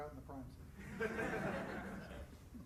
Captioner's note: laughter